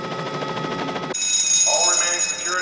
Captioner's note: alarm sounding